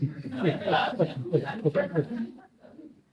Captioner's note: laughter